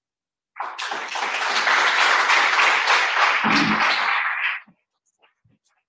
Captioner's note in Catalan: el públic aplaudeix